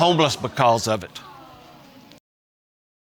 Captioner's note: audience gasps